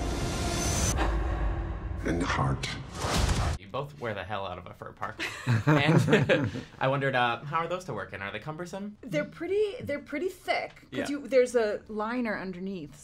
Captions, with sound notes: (dramatic music) and heart. - You both wear the hell out of a fur parka. (all chuckling) I wondered, how are those to work in? Are they cumbersome? - They're pretty thick. - Yeah. - There's a liner underneath,